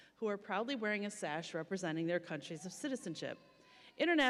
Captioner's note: none